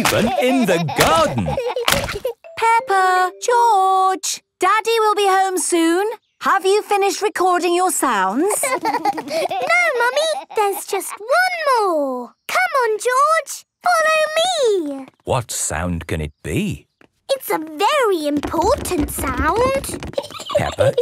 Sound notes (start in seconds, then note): 8.4 laughter; 20.1 giggling